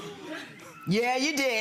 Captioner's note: audience members chuckling